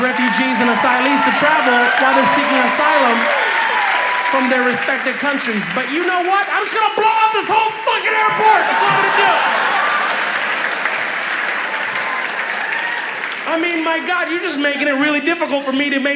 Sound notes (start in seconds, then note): 9.5 cheers